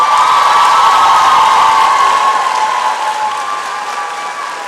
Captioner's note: applause and cheering